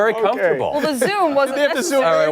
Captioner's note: laughter